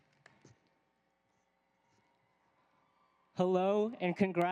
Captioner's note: applause